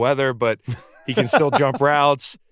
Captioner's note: laughs